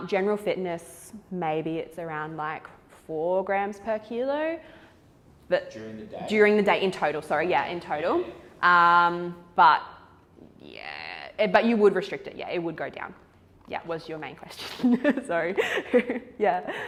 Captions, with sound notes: General fitness maybe it's around like four grams per kilo but. - During the day. - During the day in total, sorry. Yeah in total. But yeah, but you would restrict it. Yeah it would go down. Yeah was your main question, (laughs) so yeah.